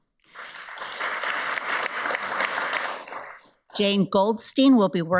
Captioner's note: audience applauds